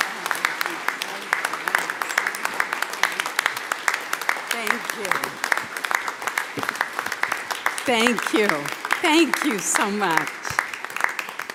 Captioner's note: applause